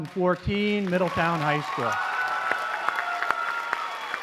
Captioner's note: applause